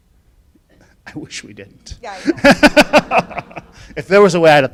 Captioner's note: laughing